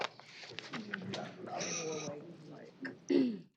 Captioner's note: indistinct chatter